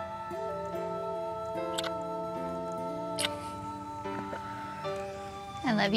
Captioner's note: smooch